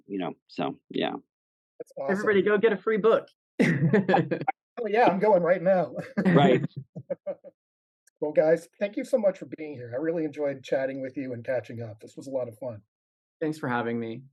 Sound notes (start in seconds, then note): 3.6 laugh